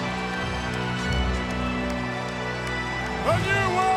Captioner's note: applause